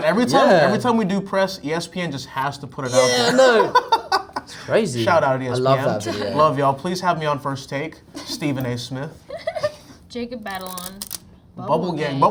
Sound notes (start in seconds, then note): 5.8 laugh; 9.3 Zendaya laughing